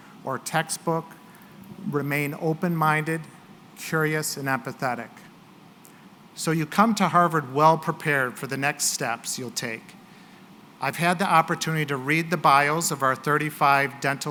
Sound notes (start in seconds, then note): none